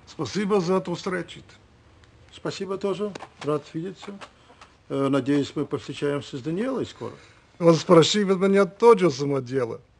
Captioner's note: speaking in Russian